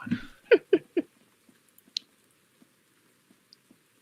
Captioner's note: rain falling